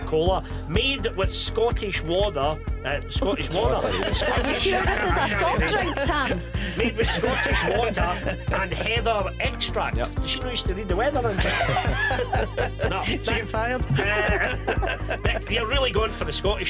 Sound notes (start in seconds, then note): 3.5 laughs; 11.2 laughs; 14.5 all laughing